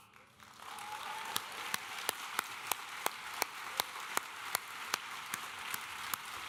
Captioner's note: audience cheering and applauding